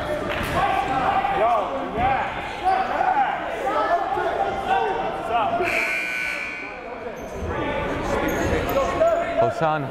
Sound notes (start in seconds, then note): 6.1 timer buzzes